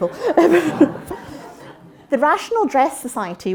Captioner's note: interruption: laughter